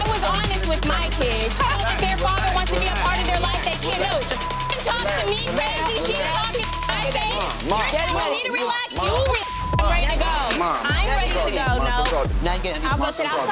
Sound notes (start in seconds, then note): 1.4 scoffs; 5.5 beep; 7.5 beep; 9.1 people yelling at once